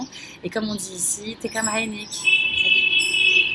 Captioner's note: something in Lebanese